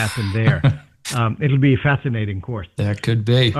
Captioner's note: laughter